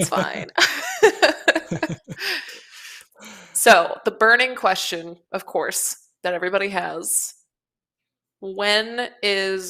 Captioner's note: laughs